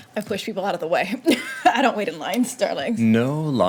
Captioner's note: laughing